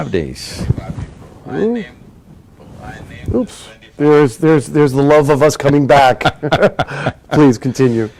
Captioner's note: laughter